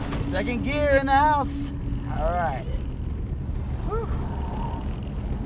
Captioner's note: none